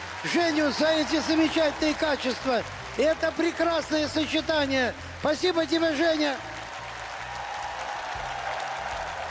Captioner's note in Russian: аплодисменты; ликование